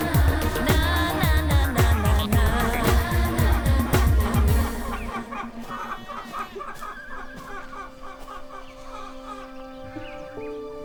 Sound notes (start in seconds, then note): 5.2 chickens squawking; 7.7 soft pensive music